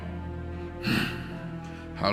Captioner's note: sigh